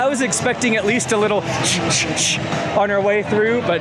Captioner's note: imitates block zone break sound